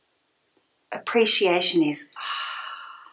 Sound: exhales

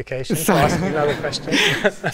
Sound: laughter

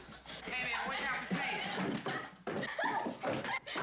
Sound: laughing

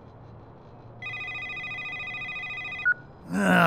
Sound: phone rings

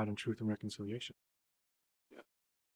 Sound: none

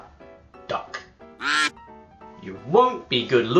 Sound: quack

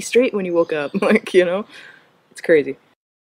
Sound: laugh

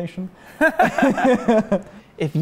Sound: laughing

